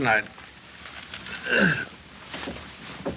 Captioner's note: grunt